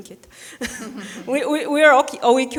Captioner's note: people chuckling